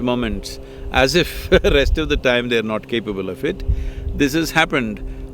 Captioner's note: laughs